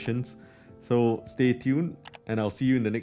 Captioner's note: mouse clicking